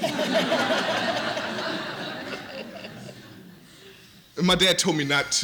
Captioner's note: laughter